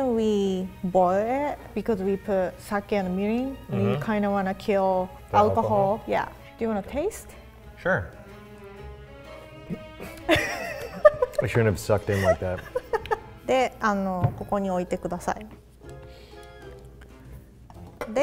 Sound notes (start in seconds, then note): 9.6 gags; 9.6 laughs; 13.5 speaks in foreign language